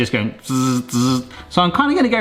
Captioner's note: buzzing